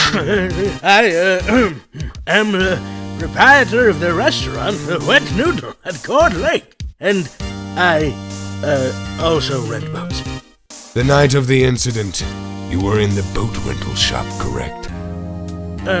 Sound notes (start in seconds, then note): 0.0 ahem